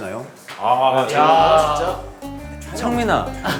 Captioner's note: boos erupt reflexively